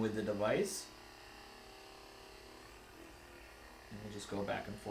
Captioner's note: Hypervolt GO vibrating